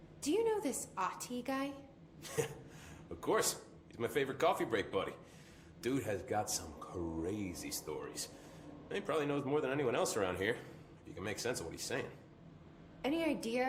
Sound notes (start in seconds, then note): 2.2 chuckles